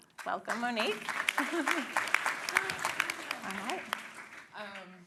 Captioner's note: applause